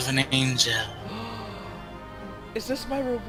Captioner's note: gasp in amazement!